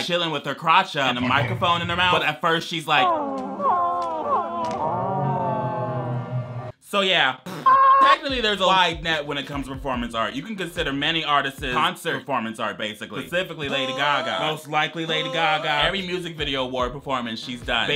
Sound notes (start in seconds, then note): 3.1 modulated woman moaning; 7.8 people yelling